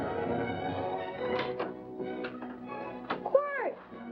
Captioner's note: door opening